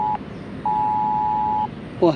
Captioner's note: keeps ringing